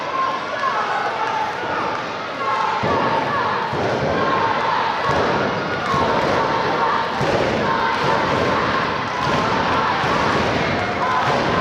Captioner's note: applause